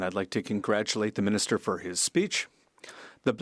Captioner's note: speaking French